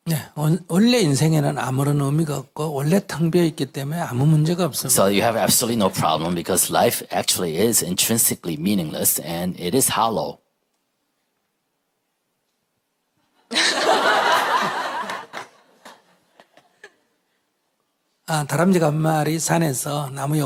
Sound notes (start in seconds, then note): 13.5 questioner/Audience Laughter